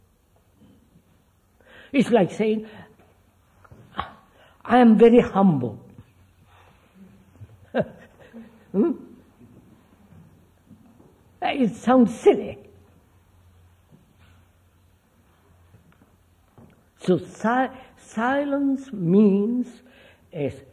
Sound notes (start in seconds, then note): 7.6 laughs